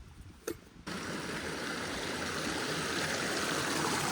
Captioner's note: creek babbling